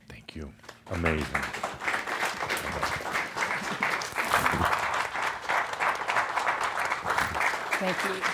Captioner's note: they hug and more applause as the audience stands to acknowledge her